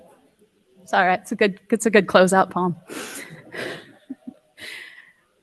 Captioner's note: laughs